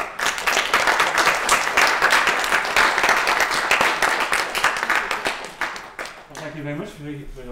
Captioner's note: applause